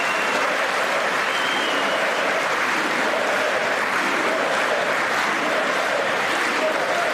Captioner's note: applause